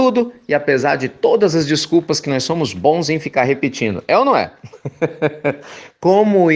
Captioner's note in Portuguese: risos